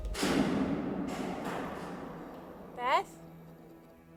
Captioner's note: switch clicks